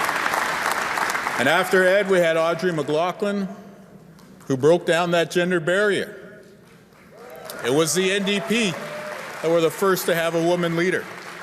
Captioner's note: cheer and applause